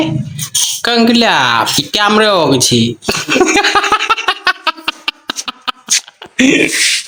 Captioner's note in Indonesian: tertawa